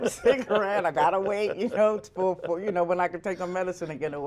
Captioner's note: laughter